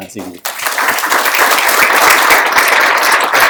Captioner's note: applause